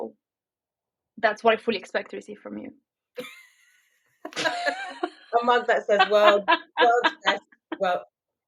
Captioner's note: laughing